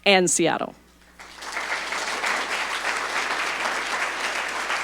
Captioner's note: audience applauding